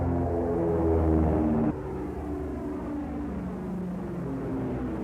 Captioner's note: airplane engines rumbling